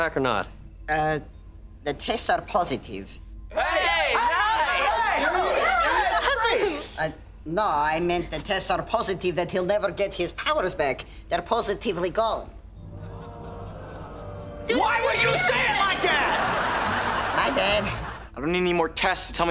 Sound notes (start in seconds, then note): 3.6 cheering